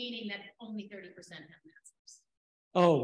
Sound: speaking faintly

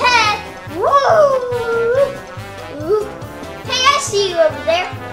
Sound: makes ghostly sounds

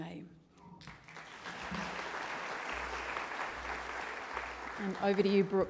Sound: audience applauds

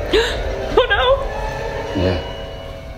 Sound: eerie music; gasps

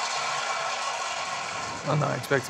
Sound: applause

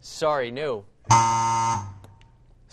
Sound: buzz

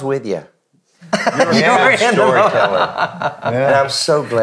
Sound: laughing

